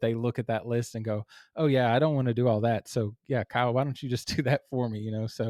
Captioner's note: laugh